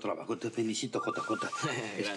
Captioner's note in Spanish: Suena el celular